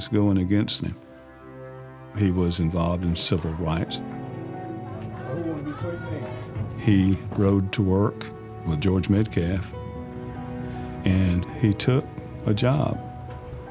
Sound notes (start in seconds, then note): 4.8 people talking in background